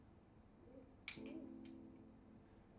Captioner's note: lighter clicks